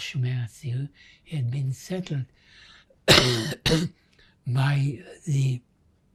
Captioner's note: coughing